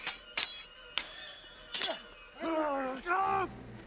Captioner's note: swords clang; men yell